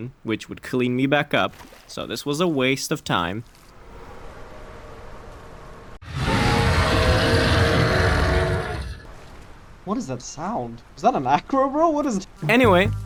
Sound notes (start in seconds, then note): 6.0 distant familiar roar